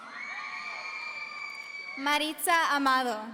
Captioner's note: audience cheering